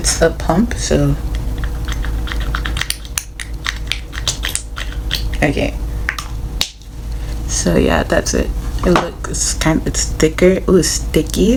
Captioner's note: squirting noises